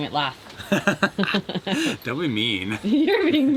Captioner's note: chuckles